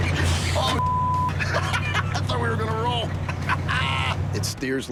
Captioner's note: laughs